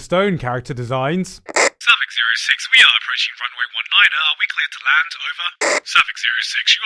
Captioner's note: radio static communication